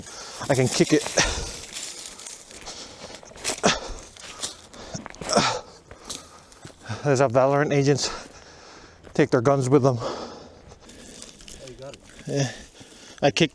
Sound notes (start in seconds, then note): 5.2 grunts in flipino and kicks branch; 11.6 laughs